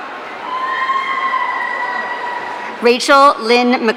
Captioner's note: audience cheering